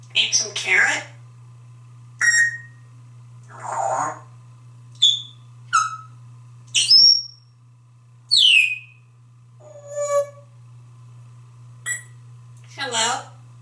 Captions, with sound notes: Eat some carrot? [Tweets and whistles] Hello?